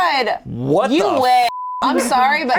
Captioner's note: beep